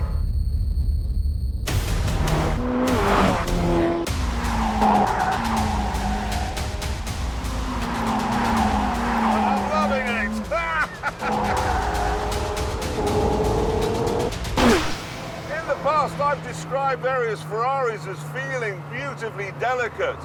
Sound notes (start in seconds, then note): 4.5 tyres screech; 10.4 laughs